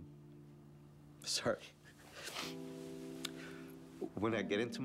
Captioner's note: sniffles